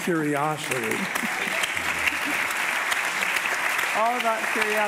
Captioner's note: audience applauding